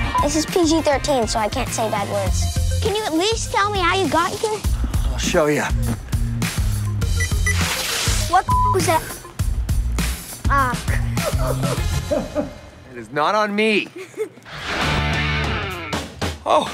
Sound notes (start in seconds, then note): 10.9 chuckles